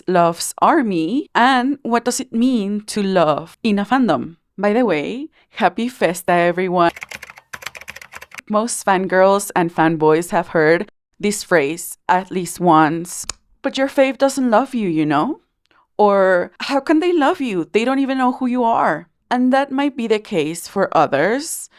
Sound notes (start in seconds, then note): 6.9 keyboard Typing